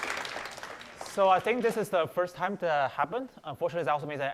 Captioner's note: applause